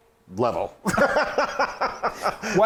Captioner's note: laughing